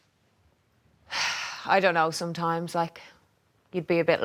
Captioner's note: sighs